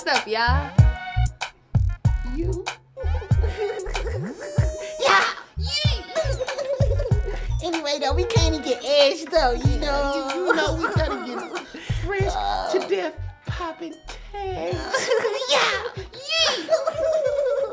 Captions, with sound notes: - What's up y'all? - You. (giggling) - Anyway though we came to get edged though. - You know we gotta get fresh to death popping tags. (giggling)